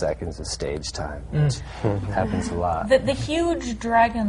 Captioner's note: murmurs of sympathy